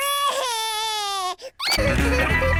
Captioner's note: cries